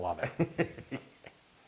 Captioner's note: laughs